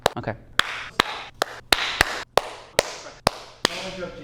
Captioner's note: clapping